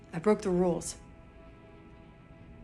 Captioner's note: none